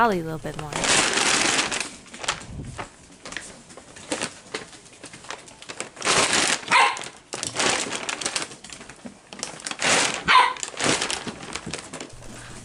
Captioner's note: Steps, Bag Rustling, and Holly Barking